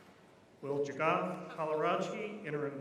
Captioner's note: none